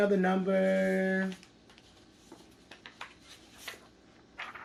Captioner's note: paper ruffling